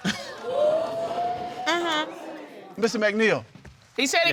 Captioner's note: audience exclaiming